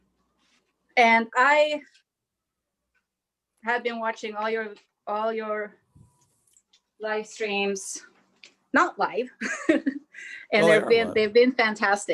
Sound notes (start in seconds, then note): 8.0 chuckles